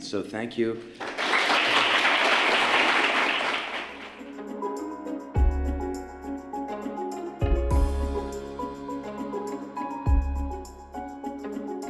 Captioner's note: applause